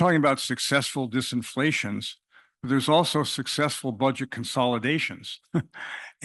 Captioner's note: laugh